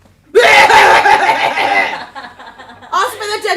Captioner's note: coughs